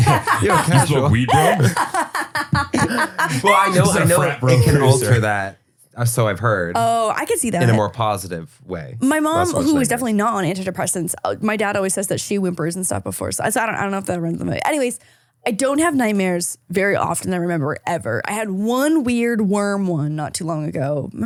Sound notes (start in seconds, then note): 0.0 laughing